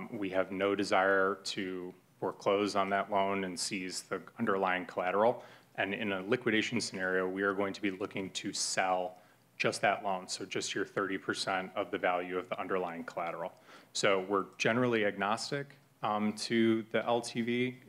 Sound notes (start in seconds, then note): none